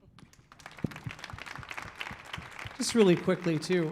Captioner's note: audience applauding